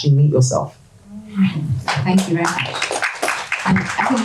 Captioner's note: audience applause